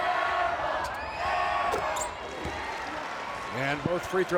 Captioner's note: crowd